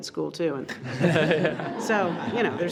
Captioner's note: all laughs